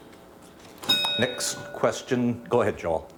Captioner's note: bell dings